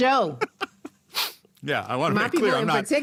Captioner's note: laughs